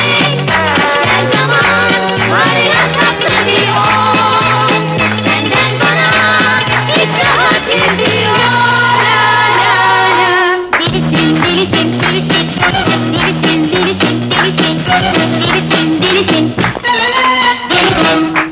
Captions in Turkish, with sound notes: Çıkar o camekanı da dünyayı penceresiz gör! Sevgili çocuklar, okulumuzun kuruluş yıl dönümü hepimize kutlu olsun! [Alkışlar, sağ olun hocam sesleri] Uzun söze ne hacet, eğlenin, gülün!